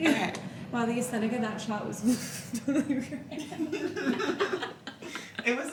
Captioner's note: laughing